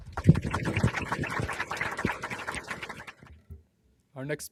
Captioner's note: applause